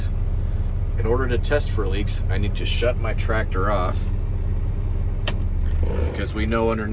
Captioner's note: engine turns off